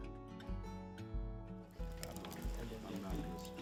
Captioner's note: chatter around fire